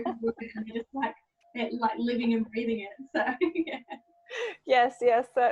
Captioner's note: laughing; laughs